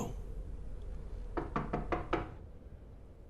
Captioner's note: knocking on door